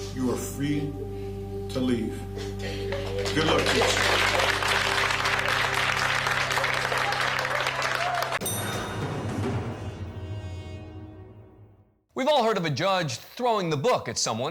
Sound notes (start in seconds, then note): 5.2 applause; 10.4 dramatic music